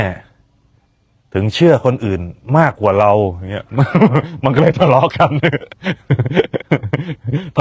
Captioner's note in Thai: เสียงหัวเราะ